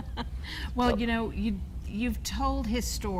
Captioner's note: laughs